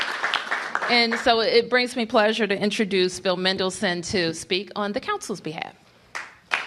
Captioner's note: cheers and applause